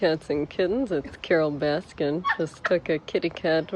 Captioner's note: laughs